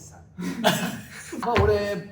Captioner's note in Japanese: 笑い声